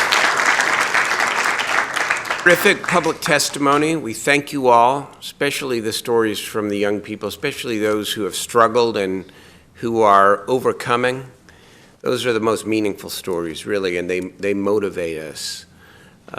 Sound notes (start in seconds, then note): 4.6 applause